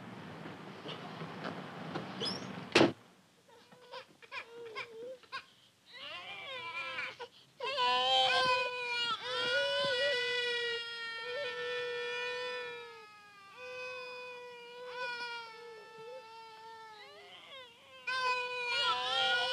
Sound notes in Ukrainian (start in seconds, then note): 0.0 Голос за кадром; 7.1 діти плачуть